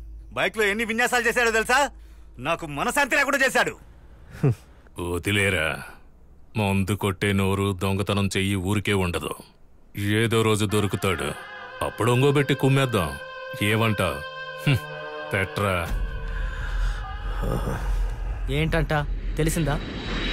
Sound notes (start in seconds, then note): 4.3 chuckles